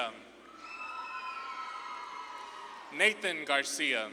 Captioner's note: audience claps and cheers